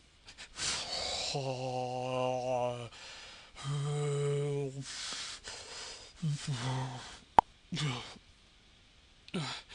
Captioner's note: moaning